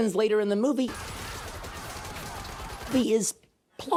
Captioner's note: gunshots banging; Nazis screaming